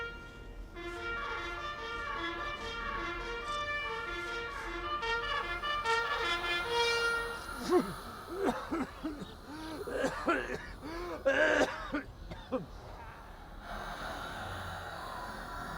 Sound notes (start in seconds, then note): 7.4 coughing